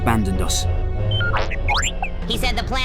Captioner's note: astromech rambling